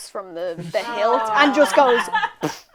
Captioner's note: sounds of Sympathy, laughter